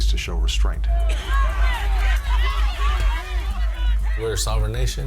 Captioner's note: protestors and policemen shouting